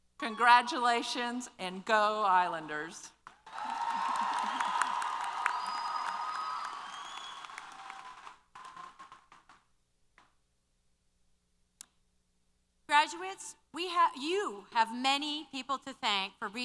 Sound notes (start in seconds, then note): 3.2 applause & Cheers